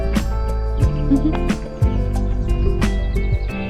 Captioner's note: a little laugh